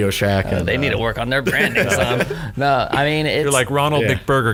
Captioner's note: laughter